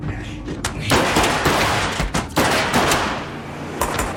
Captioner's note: gun firing